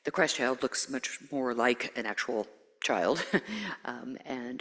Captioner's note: chuckles